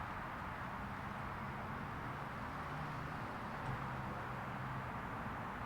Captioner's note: traffic buzzing continues